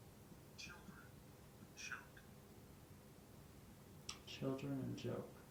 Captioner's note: faint male voice speaking